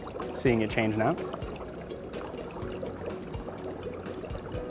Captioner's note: bubbling